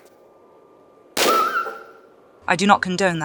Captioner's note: bam